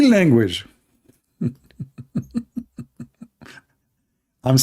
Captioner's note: laughing